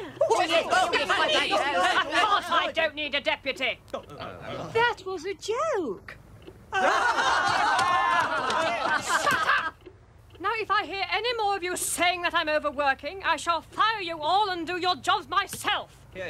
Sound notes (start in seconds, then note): 0.0 excited yelling; 3.8 cowed murmuring; 6.7 laughing